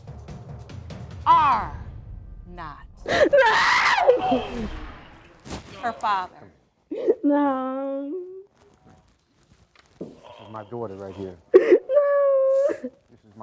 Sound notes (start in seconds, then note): 6.9 sobbing